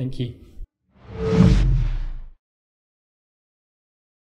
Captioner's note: whoosh